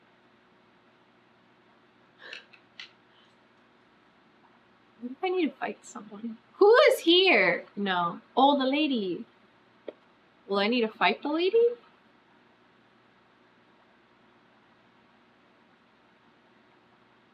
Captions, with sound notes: [LAUGHS] WHAT IF I NEED TO FIGHT SOMEONE WHO IS HERE NO OH THE LADY WILL I NEED TO FIGHT THE LADY